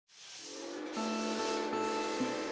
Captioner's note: train whistle